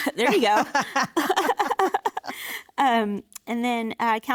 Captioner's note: laughing